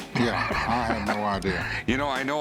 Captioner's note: laughs